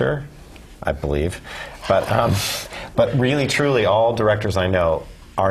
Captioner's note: laugh